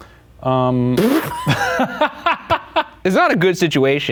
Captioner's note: both laughing